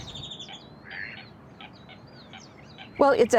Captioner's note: duck quacking